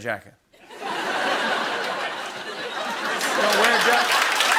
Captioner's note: laughter